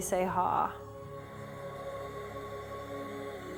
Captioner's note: breathing